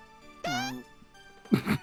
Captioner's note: fart